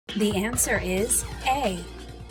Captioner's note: female announcer speaking